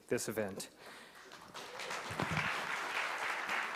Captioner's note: applause